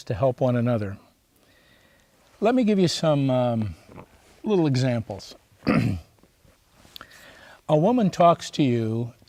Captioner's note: clears throat